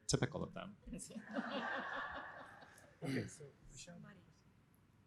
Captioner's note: laughter